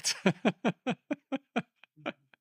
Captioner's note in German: lacht